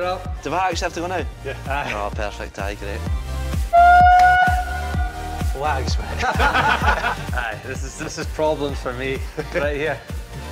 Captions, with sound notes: You're up. >>Do I actually have to go now? Oh perfect, aye, great. (Loud horn) Waggs mate! (Laughter) This is problems for me, right here.